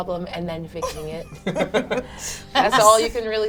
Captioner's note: all laugh